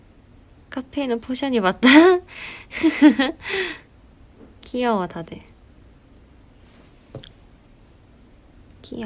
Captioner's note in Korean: 웃음